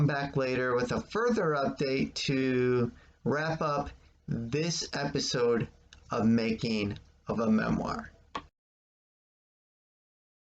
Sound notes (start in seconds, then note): 8.3 click